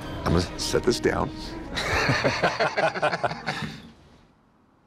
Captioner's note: laughter